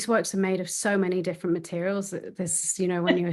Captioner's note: chuckling